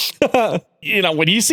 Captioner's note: laughs